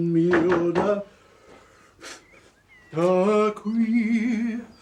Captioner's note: knocking at door